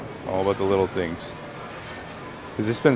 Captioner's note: sauce sizzling